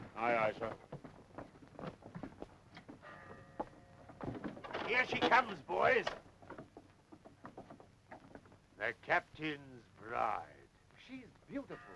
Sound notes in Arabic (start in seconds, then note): 3.0 رنين الجرس